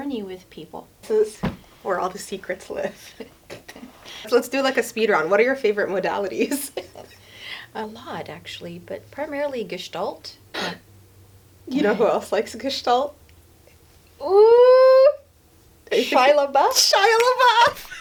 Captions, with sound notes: with people. So, this is where all the secrets live. Let's do like a speed round. What are your favorite modalities? A lot actually, but primarily Gestalt. [gasps] You know who else likes Gestalt? Oooh - Shia LaBeouf? Shia LaBeouf! [both laugh]